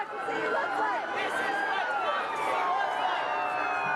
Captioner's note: unison chant; police sirens